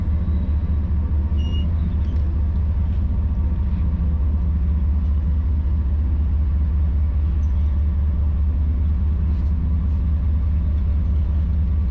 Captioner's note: engine humming